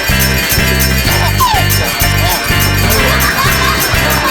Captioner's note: baby laughing